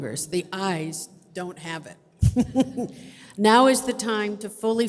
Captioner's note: laughs